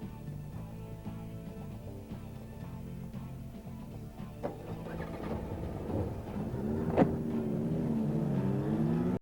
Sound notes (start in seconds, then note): 3.8 engines start